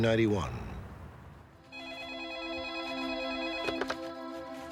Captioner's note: phone ringing